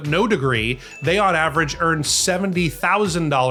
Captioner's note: bell dings